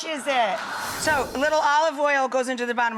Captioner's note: crowed laughter